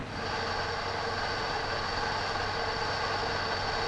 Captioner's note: engine whirring